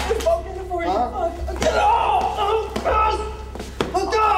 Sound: crying out

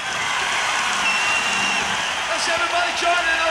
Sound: crowd cheering

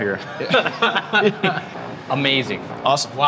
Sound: all laughing

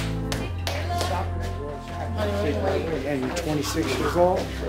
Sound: clapping

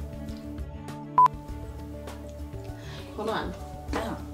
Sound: screen beeps

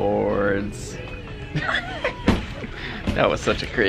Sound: laughter

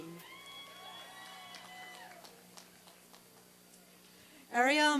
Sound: applause and cheering

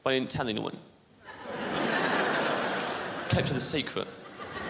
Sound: crowd laughs

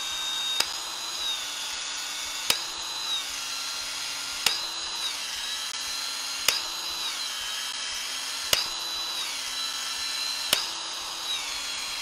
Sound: tool whirring

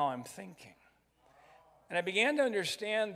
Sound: crowd

